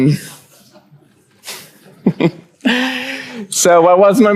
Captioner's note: chuckles